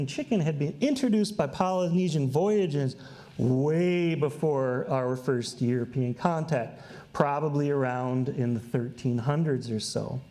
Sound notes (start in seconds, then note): none